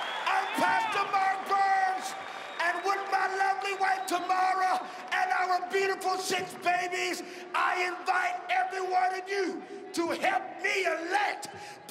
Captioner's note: cheering and applause